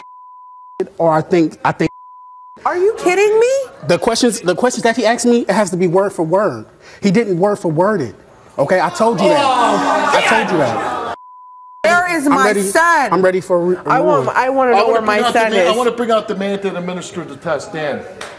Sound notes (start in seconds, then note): 8.8 audience boos